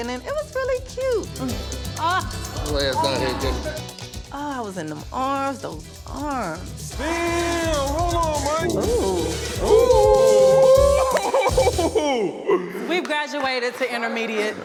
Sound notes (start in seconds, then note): 1.3 sighs; 11.2 laughs